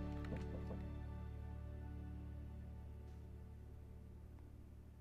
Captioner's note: Darnell knocks at door